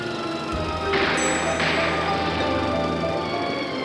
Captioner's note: gunfire